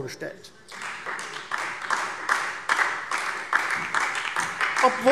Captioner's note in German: Beifall Freie Demokraten und vereinzelt SPD